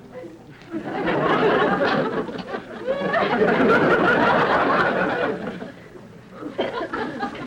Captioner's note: audience laughter